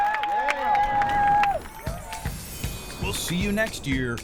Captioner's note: logo whooshes